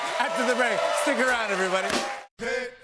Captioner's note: cheers and applause